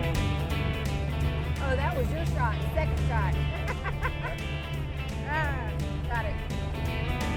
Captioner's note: laughing; guitar music playing